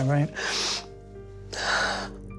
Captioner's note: sniffling